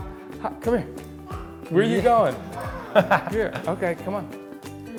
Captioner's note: laughs